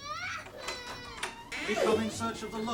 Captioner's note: door opening